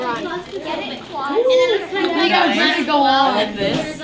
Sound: student chatter

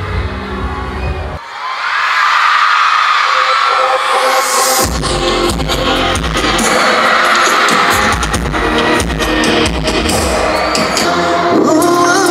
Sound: super loud cheer / performance finally begins

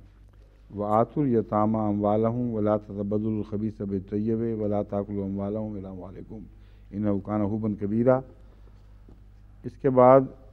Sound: Arabic

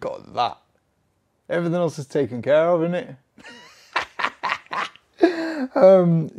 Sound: laughs

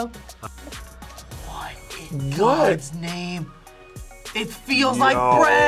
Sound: whispers

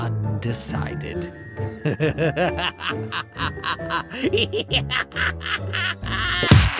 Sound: maniacal cackle

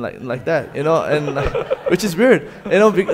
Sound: audience laughing

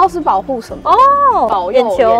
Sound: exclamation

